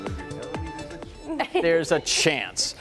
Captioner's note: laughter